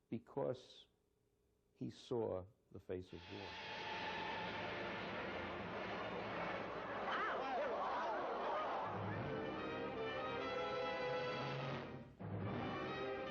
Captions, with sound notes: because he saw the face of war. (crowd murmuring) (intense music)